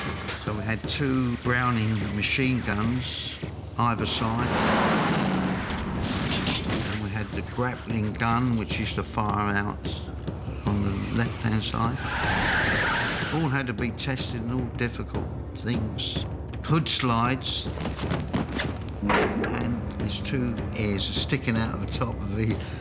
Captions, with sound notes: So we had two Browning machine guns... ...either side. And then we had the grappling gun which used to fire out... ...on the left-hand side. [TIRES SCREECH] All had to be tested, and all difficult things. Hood slides... ...and his two ears are sticking out on the top of the....